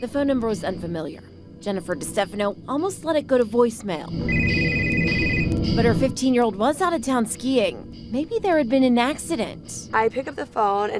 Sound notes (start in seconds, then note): 4.2 phone ringing